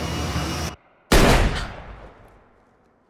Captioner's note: gun fires